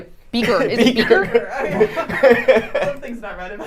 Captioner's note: laughing